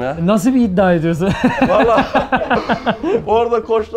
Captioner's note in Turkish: Gülüşmeler